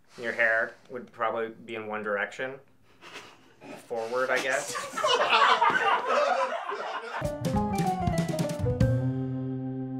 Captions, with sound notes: You hair would probably be in one direction. [sniggers] Forward, I guess [general laugh]